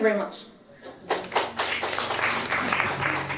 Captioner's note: applause